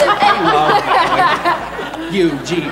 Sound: laughing

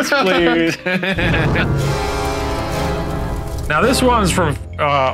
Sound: laughing

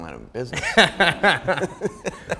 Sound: both laughing

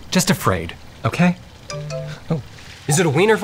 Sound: phone chimes and buzzes

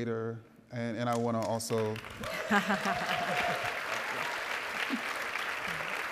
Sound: audience applauding

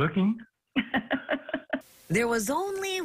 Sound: laughs

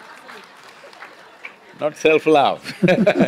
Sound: laughter; laughter

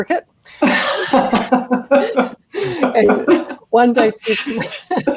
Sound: laughter; laughter

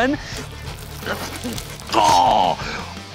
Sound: donut sawing

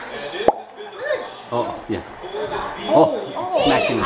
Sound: making popping noises

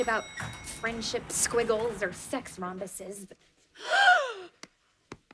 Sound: gasping

